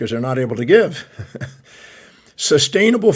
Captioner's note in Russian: смеется